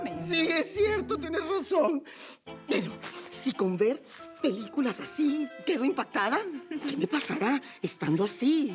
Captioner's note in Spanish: Ríe; Solloza